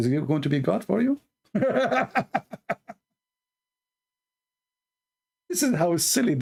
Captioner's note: Ketawa